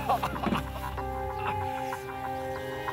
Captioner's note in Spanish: Quejidos